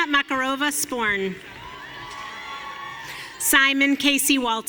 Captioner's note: audience cheering